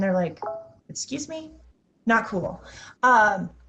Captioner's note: notification chimes